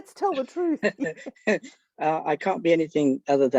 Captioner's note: laughter